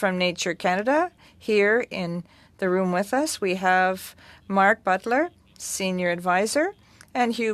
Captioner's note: speaking French